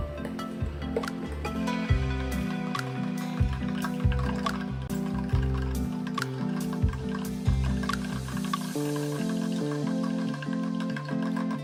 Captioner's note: stirring